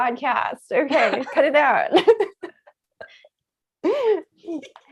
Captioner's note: laughing; laughs